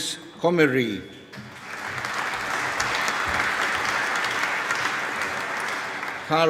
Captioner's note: applause